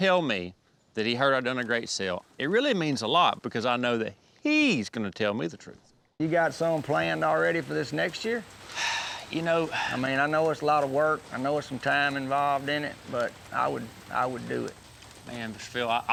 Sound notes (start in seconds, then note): 8.7 sighs